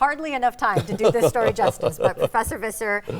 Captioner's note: laughing